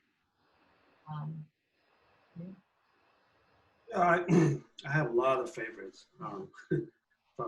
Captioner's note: clears throat